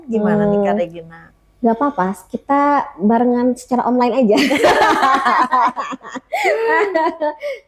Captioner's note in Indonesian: tertawa